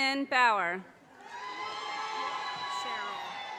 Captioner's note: audience cheers and applause